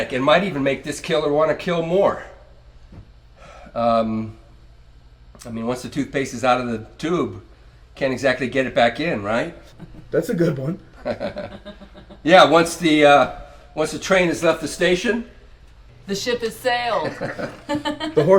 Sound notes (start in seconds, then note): 10.9 Marai and Pagano laughs; 11.0 Maria laughs; 16.9 Maria laughs; 17.0 Pagano laughs